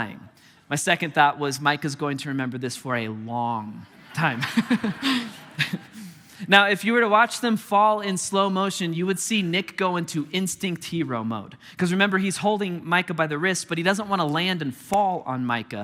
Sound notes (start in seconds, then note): 3.8 congregation laughing; 3.9 chuckling